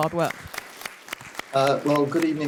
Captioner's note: audience applauding